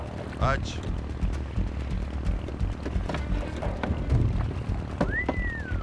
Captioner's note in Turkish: Tekne motor sesi; Islık sesi